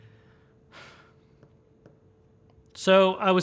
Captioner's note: sighs